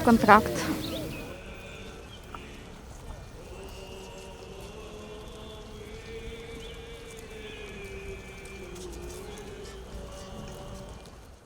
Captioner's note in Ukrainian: Лунає молитва